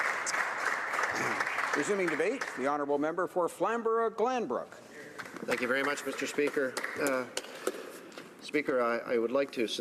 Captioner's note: applause